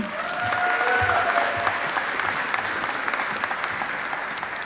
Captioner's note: audience applauding